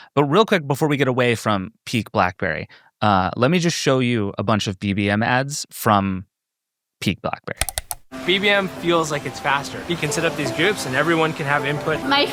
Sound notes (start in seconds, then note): 7.6 computer mouse clicking